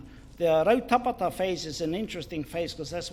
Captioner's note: foreign Language